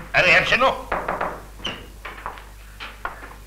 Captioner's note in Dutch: er wordt geklopt